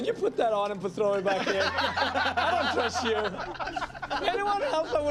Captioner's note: laughter